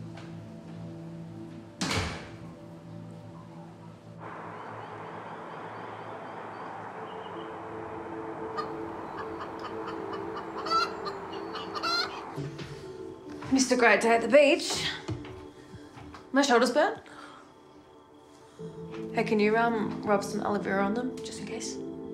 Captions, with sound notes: (door slams shut) (light instrumental music) (chickens clucking) You missed a great day at the beach. Are my shoulders burnt? Hey, can you rub some aloe vera on them just in case?